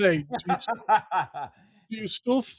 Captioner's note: laughs